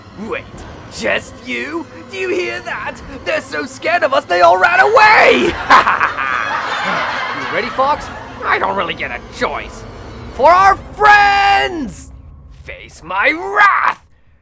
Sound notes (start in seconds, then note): 5.4 laughter